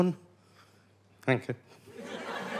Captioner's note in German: schüchtern; Lachen